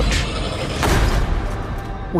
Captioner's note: loud crunch